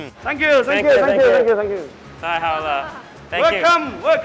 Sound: speaks mandarin

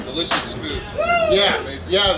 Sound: crowd cheering

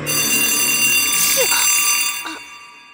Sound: bell ringign loud

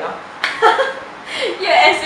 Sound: small laugh

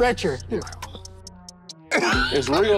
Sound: group laughs

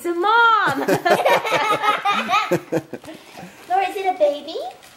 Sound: laughing

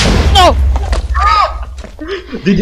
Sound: laughing

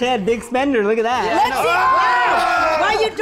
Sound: group shouts and exclaims

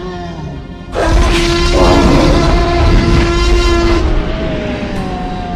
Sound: T-rex roars

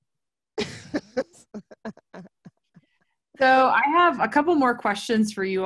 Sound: laughter

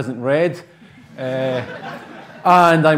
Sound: laughter

